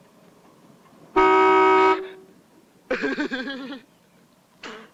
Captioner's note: horn honks; giggling